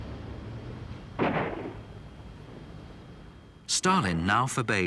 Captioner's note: gun blasting